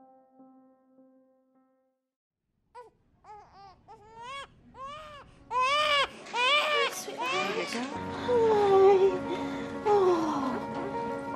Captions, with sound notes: (baby crying) Hi, sweetheart. - There you go. - Hi. Oh.